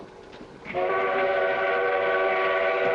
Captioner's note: train whistle